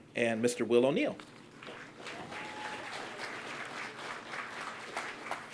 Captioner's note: applause